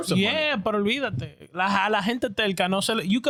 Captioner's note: speaking In Foreign Language